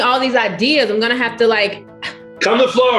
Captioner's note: gasp